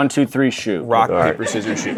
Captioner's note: audience laughing